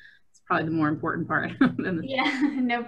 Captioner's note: laughs